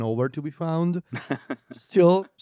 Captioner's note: laughs